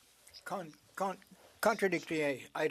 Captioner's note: speaking French